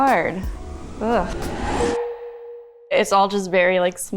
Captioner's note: title beeps